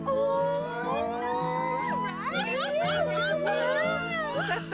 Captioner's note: excited Chatter